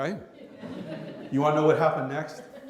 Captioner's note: laughter